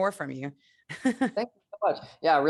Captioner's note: laughs